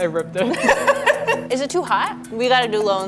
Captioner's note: laughing